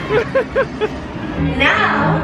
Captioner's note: laughs